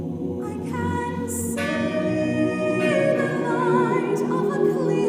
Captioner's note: bell tolls